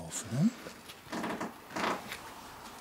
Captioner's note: creaking